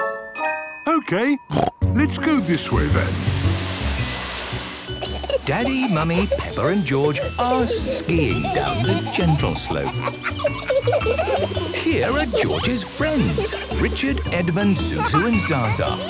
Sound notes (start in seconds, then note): 0.8 snorting; 9.4 kids laughing